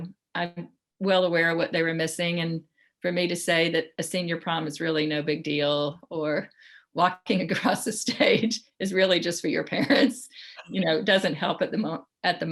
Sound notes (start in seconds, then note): 9.6 laughs